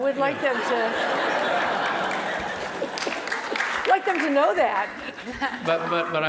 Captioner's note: laugh; applause